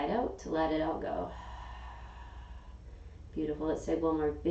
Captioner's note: exhaling